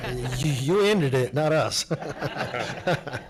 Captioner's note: laughing